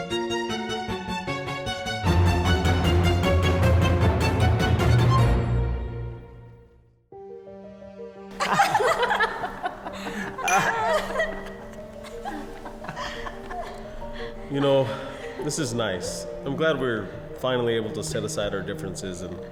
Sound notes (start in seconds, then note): 0.0 curious music continues; 5.8 curious music fades; 7.1 gentle music; 8.3 group laughing; 10.0 glasses clinking